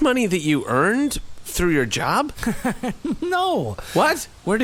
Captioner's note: laughs